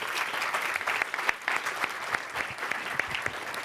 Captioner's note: applause